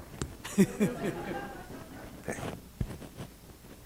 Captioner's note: laughter